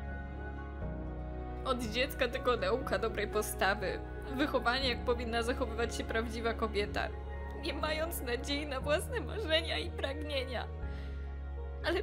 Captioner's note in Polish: mówi w płaczu